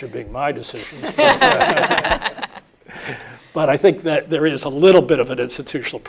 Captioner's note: laugh